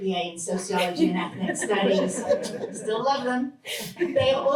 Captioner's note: laughter